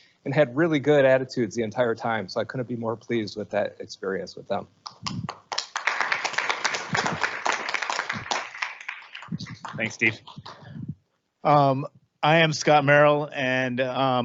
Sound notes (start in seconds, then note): 5.0 audience applauding